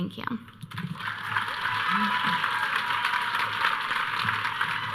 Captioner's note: audience cheering